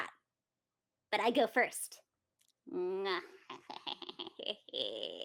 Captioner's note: chuckles